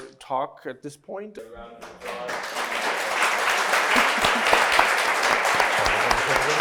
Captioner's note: everybody applauds